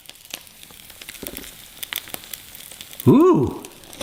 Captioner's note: sizzling sound